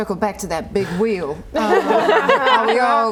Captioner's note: laughing